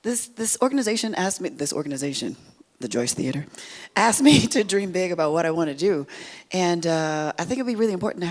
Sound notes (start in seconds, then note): 4.2 laughs